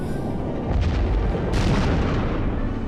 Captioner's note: crash